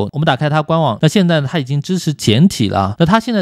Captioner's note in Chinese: 中文